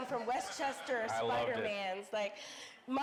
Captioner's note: audience laughing